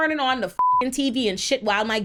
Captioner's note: beep